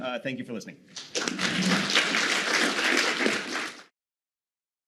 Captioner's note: applause